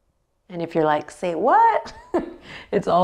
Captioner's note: chuckles